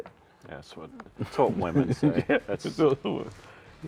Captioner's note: laughing